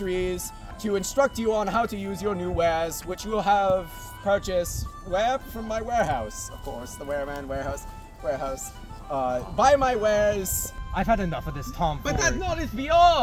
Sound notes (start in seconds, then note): 2.3 Lackey muttering; 6.3 Lackey muttering; 8.2 stammering